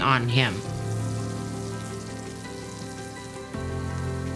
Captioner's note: pan sizzles